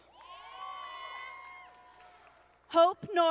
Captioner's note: audience applauding